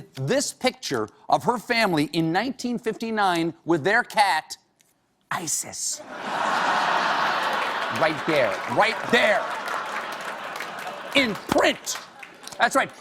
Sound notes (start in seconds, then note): 4.5 applause; 6.0 laughter